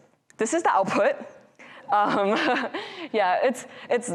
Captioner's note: laughs